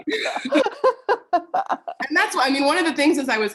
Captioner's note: laughter